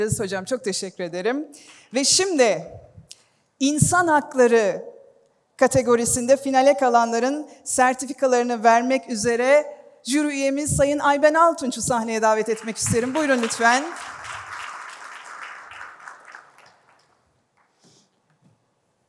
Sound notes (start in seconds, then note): 14.8 applause